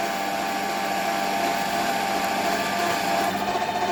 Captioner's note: lathe struggling noise